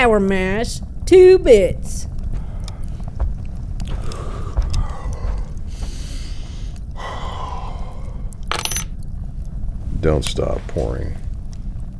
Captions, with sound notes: Sour mash, two bits. [Mountain Man exhales] *clink* Don't stop pouring.